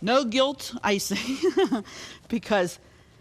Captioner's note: laughs